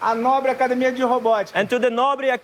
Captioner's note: non-english speech